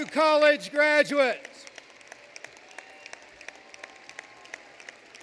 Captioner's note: applause